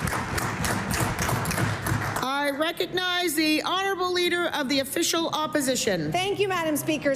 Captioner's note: applause